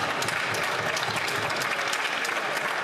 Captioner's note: some Applause